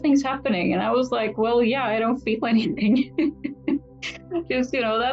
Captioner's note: laughs